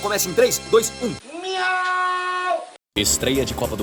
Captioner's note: cat noises